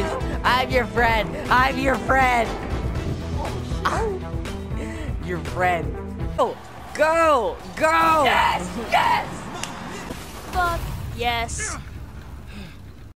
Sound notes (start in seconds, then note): 8.9 victory screech!!